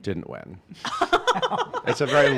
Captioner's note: laughing